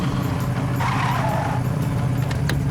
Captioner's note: tires screeching